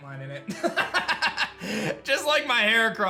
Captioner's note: laughs